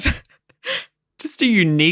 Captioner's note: laughing